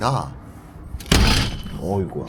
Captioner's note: boom!